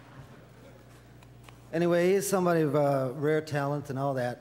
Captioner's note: audience laughter